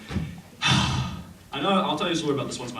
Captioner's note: heavy sigh